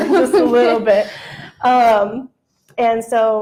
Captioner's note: laughing